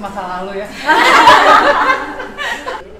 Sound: crowd laughing

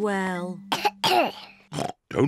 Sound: coughs; oinks

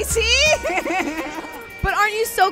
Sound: laughs

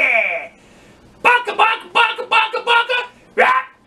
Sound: PARROT cackles; TOUCAN squawks

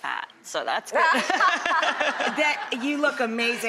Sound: laughing

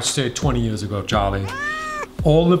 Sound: Charlie meows

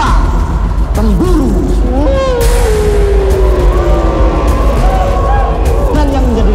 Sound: Cak Jon howls, followed by the audience

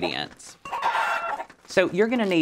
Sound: chickens cluck

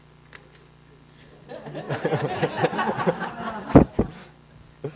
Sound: laughing

